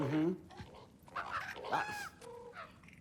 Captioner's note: caw